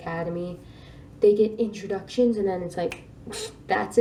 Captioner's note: snap